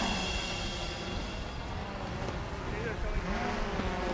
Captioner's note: drone buzzing